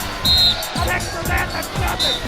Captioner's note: whistle blowing